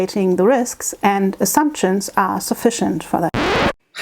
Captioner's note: needle drop sound